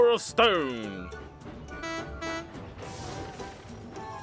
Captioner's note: philip honks horn